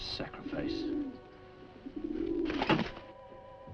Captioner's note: dove cooing; dagger thudding